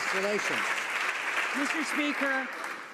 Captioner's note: some Applause